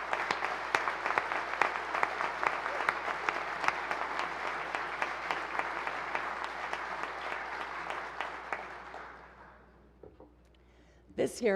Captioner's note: applause